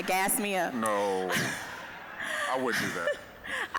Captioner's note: all laughing